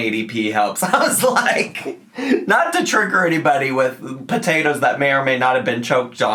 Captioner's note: chuckles